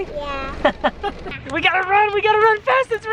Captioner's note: laughs